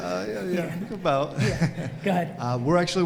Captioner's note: audience laughs